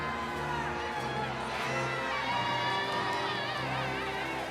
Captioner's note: audience cheering